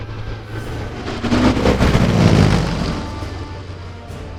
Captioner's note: whirring